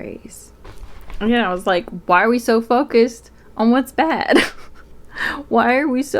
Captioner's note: laughs